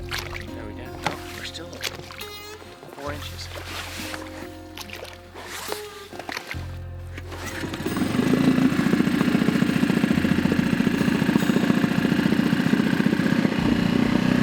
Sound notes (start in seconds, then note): 6.4 water splashing; 7.1 outboard engine starting